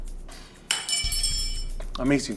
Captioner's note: spoon clangs